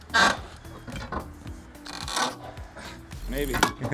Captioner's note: door creaking